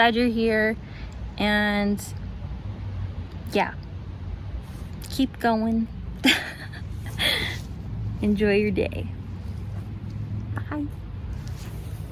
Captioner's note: laughs at self